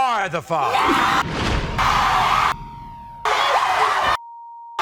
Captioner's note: audience roars